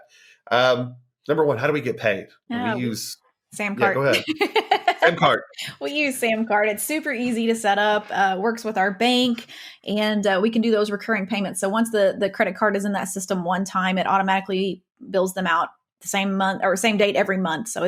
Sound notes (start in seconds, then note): 3.8 laughing